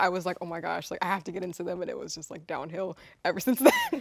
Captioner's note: laughs